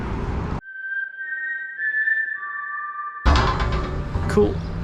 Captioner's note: wistle